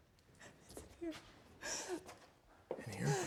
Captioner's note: sobbing